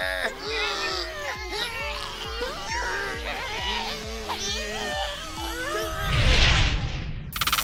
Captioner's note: tugging sounds